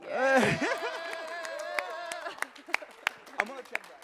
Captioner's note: cheers and applause